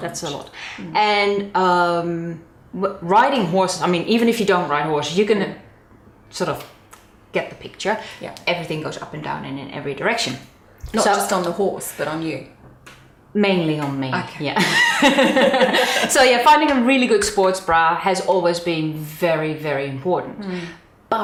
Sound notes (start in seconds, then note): 14.6 both laughing